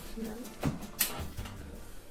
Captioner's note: click